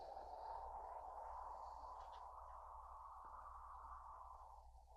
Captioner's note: wind continues whooshing